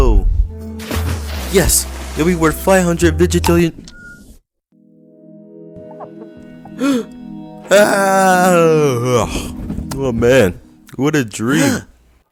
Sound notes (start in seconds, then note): 6.7 gasp; 11.5 yawn